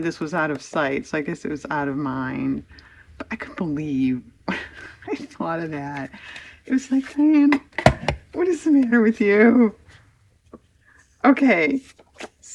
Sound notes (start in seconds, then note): 4.8 laughs